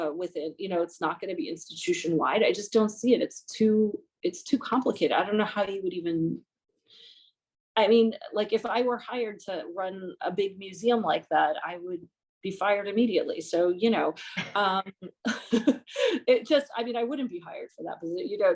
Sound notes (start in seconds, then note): 13.5 laughter